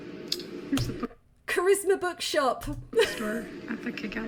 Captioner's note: laughing